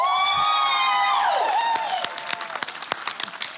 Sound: cheering

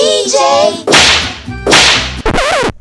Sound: slam; record scratch

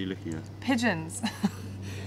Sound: laughter

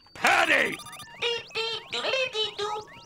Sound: beeping

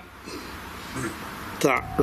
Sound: ghostly voice grunts

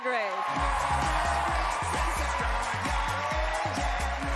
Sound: cheering

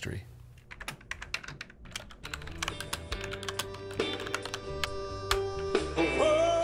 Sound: computer keys tap

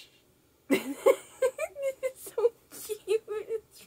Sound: laughing

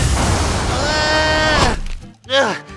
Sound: dramatic guitar music; screaming; splat

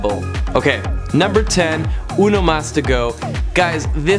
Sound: speaking in a foreign language

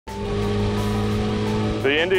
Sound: motor revving

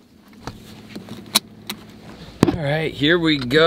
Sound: footsteps grinding dirt; buckle clicking

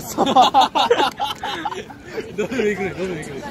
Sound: laughing in tears

